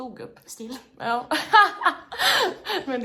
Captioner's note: laughs